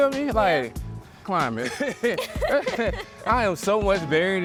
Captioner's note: laughs